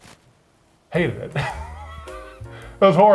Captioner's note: laughs